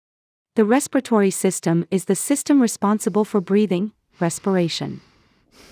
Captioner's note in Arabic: التنفس